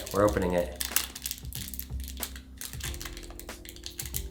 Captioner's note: wrapper crinkling